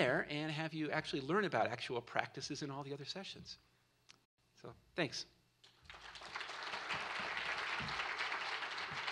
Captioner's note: applause